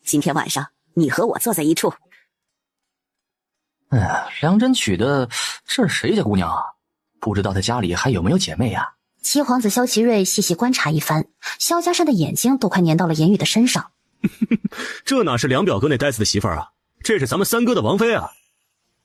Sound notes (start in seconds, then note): 14.2 chuckles mockingly